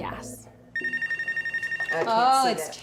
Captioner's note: ringing